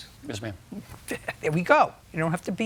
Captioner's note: laughs